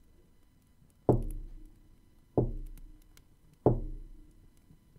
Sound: three solemn knocks against a door to the library ring out

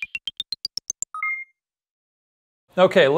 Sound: buzzer beeping

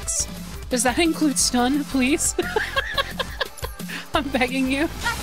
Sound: laughter

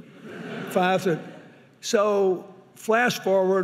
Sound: audience laughing

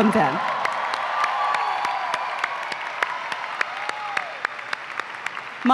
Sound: applause and cheering

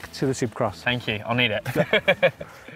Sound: they laugh

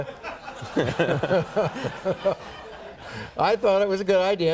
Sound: laughter

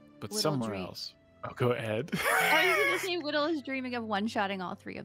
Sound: laughs

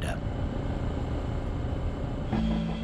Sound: machinery humming

